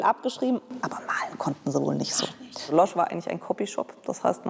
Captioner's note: whispers